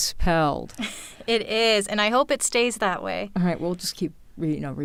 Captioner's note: laughs